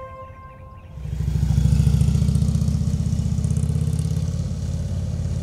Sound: motorcycle engine roaring

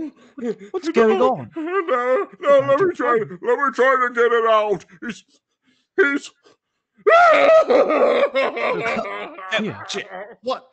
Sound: catching breath; shouting sobbing

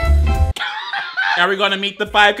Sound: upbeat jazz music; laughs

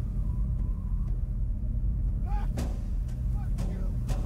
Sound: barely audible- screams in pain

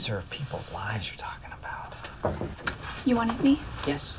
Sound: Knocking

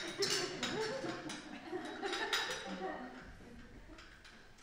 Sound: dishes clank

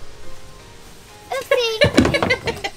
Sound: laughing

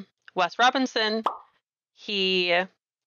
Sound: pop!

